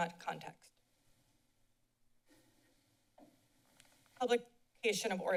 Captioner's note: silence